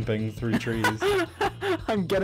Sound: laughing

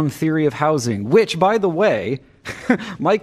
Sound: laughter

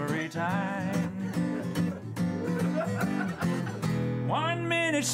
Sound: laughter

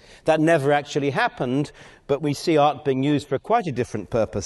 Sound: none

